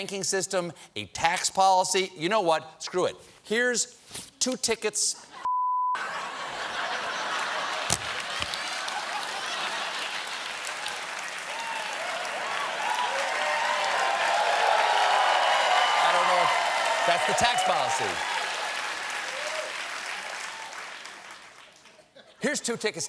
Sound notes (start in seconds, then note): 8.0 cheers and applause; 8.9 laughter